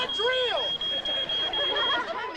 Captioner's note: audience laughing